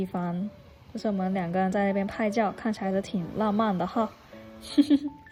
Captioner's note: laughs